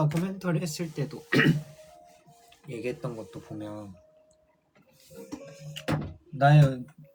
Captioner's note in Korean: 목을 가다듬음